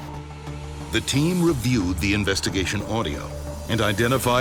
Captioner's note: voiceover